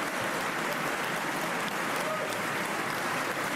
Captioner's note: applause